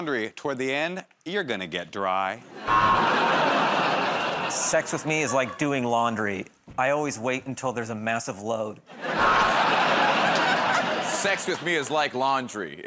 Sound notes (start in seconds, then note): 2.6 buzzer; 9.2 buzzer